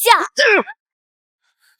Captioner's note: ahem